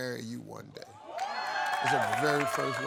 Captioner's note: crowd cheering